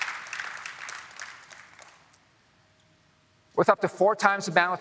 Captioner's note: applause